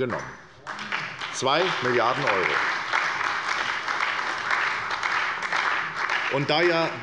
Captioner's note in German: Beifall bei der SPD und der FDP